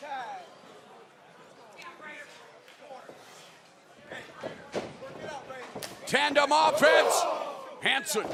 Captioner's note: crowd chatter